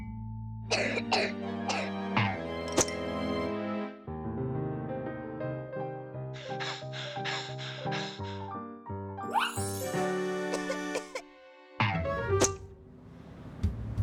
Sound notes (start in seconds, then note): 0.7 coughing; 6.3 breathing rapidly; 10.5 coughing